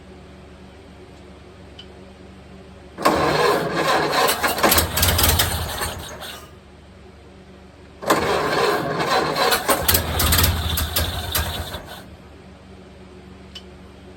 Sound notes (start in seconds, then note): 3.0 engine cranking; 3.0 engine dies; 3.0 engine sputtering/idling; 8.0 engine dies; 8.0 engine cranking; 8.0 engine sputtering/idling